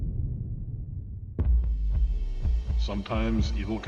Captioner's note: boom sound